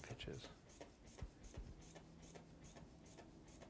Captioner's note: air pumping